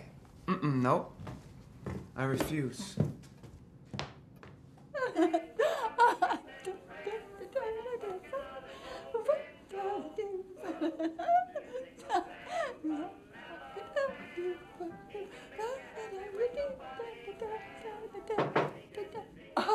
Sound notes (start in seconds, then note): 4.7 laughs; 6.6 humming; 18.4 knocking